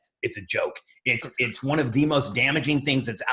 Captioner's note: laughs